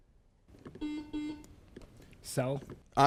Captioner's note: beep